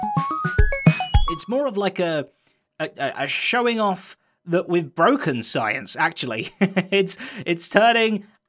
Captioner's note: funky science music; chuckles